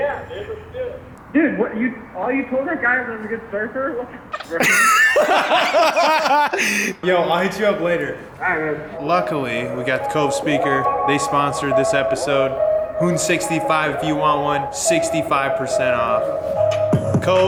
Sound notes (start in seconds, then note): 4.4 both laughing